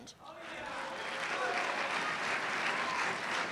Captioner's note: applause